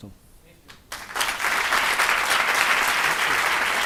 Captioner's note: audience applauds